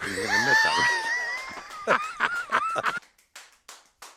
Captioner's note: laughing